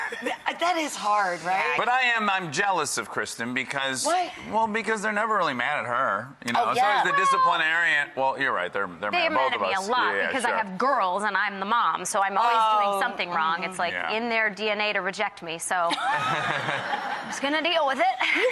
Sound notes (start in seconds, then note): 15.9 audience laughing